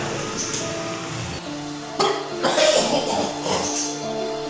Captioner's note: vomits hardly